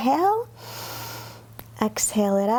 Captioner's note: inhales